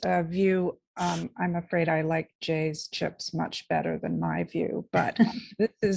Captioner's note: chuckling